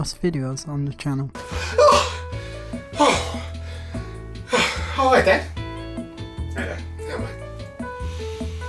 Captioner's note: gasps